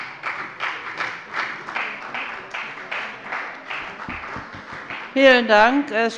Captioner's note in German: Beifall bei der FDP und bei Abgeordneten der CDU